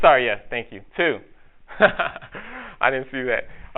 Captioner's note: narrator laughs